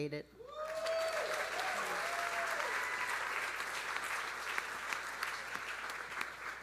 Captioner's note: audience cheering; audience applauding